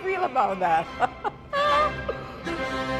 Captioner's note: laughs